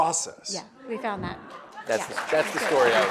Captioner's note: audience applauds